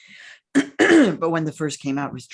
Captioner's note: clears throat